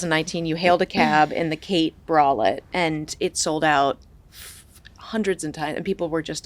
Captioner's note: blows